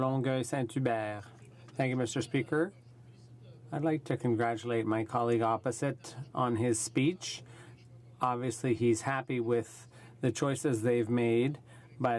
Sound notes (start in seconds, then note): 5.7 speaking in French